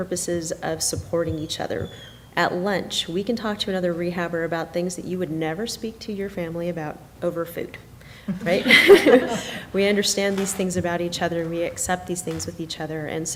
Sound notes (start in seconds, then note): 8.3 laughing